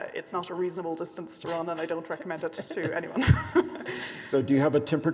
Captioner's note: laughs